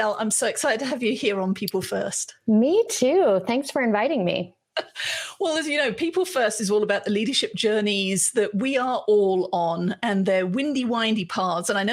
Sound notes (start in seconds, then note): 4.8 laughs